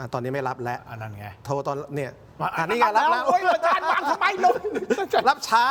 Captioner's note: laughs